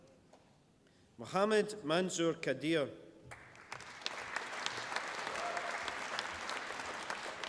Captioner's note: applause